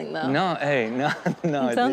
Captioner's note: audience laughs